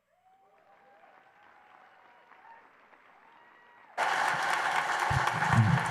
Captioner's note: applause and cheers